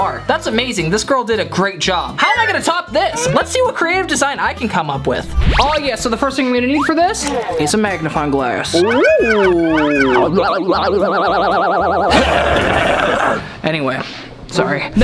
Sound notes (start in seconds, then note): 12.1 growling